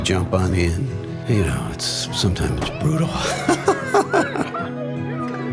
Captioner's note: laughs